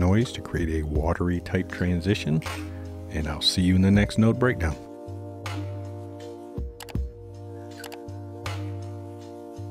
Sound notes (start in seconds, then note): 7.8 keyboard clicking